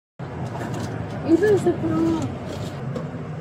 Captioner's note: speaking in a foreign language